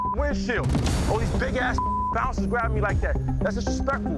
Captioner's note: beep; beep